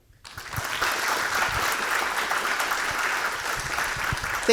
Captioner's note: audience clapping